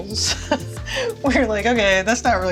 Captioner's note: laughing